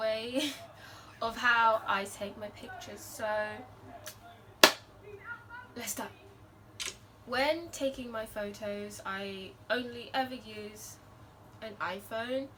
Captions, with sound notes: way of how I take my pictures so *clap hands* let’s go. When taking my photos, I only ever use an IPhone.